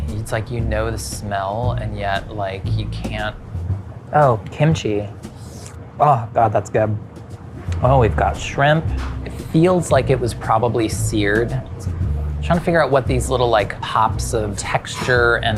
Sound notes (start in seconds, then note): 5.3 slurps